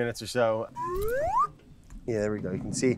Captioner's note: slide whistle blowing